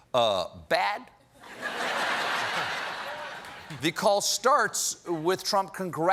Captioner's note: laughter